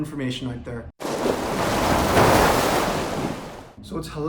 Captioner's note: waves crashing